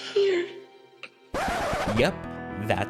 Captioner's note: record scratch